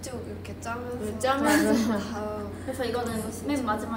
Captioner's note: haha